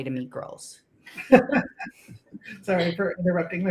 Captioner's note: laughs